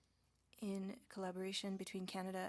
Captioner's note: speaking French